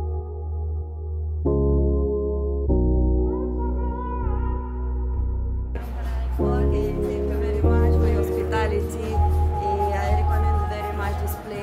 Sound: chattering noise

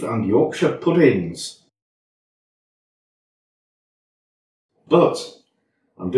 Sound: worrying silence

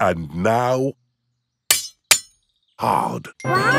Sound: shovel clanks

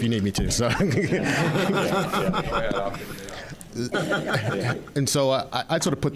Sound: audience laughing

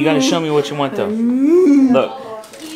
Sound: moaning

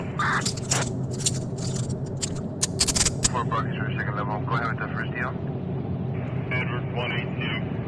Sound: handcuff SFX

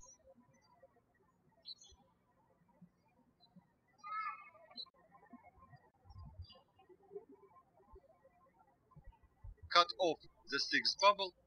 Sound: birds chirping

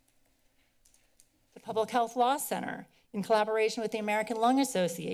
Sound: none

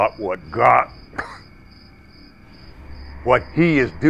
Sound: coughs

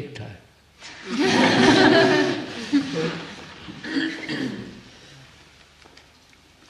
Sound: laughter

